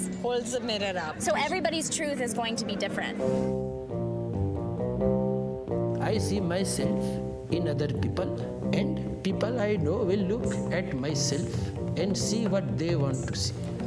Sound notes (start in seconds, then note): none